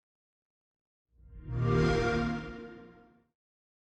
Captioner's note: xbox sound